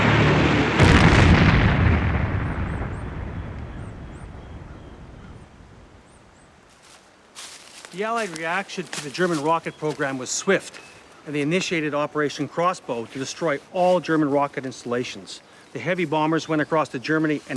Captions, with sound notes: (rocket explodes) (leaves crunching) The Allied reaction to the German rocket program was swift, and they initiated Operation Crossbow to destroy all German rocket installations. The heavy bombers went across to Germany